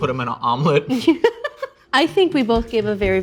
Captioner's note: laughing